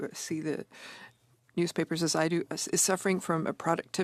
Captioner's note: speaking French